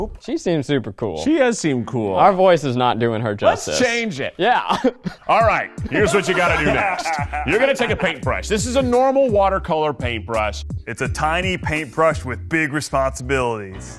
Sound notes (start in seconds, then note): 5.8 laughing; 13.7 playful music